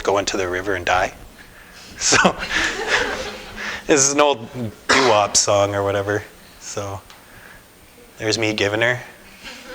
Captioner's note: laughter